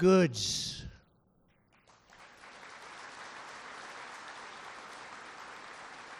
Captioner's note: applause